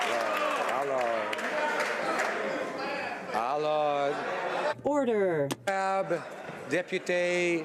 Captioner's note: some Applause